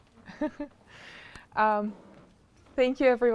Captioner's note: chuckles